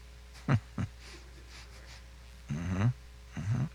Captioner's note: man chuckles